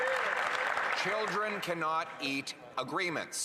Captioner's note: some Applause